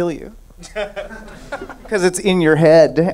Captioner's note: laughing